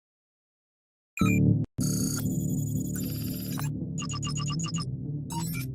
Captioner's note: computers beeping